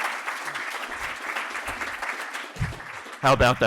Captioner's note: applause